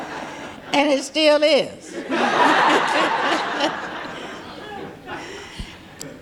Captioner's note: audience laughing